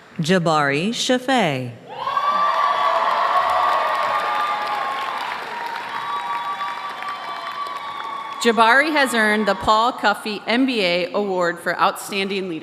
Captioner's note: applause